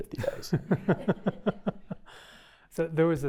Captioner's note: laughter